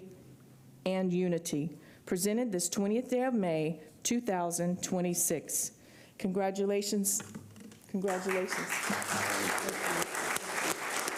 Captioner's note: applause